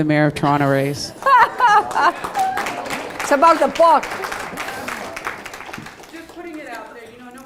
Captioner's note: laugh